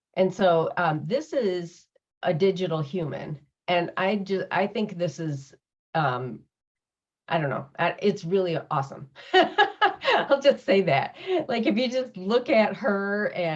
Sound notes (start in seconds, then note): 9.3 laughs